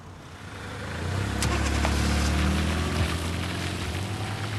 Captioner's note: car engines roaring